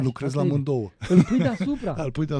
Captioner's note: laughter